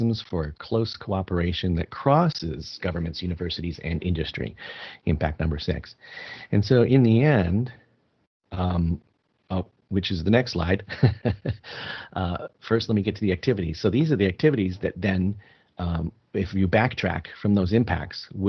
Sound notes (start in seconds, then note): 10.8 laughing